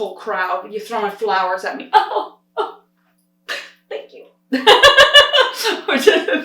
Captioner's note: laughs